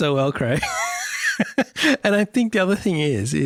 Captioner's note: laughs